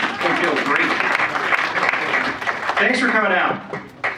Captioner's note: audience applauds